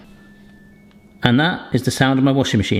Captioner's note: machine beeping